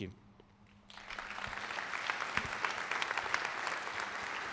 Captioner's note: applause